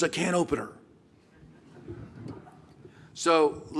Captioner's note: laughter